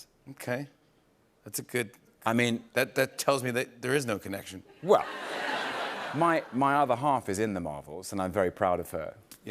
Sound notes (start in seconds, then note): 4.9 laughter